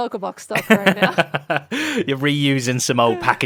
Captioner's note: laughs